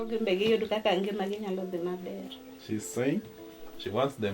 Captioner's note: speaking in foreign language